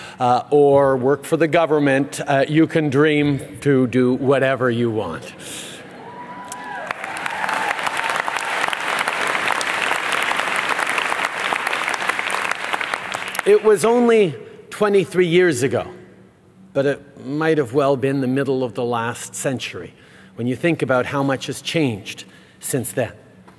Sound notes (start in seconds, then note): 9.1 applause